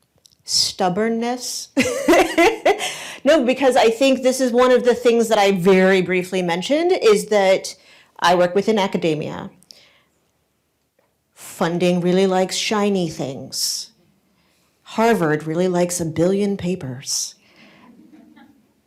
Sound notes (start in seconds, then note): 1.9 laughs